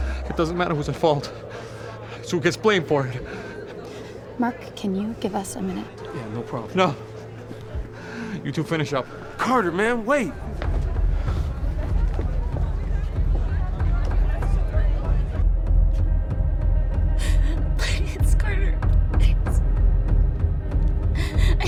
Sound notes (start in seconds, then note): 17.0 sobbing